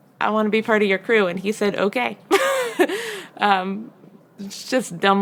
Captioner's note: laughs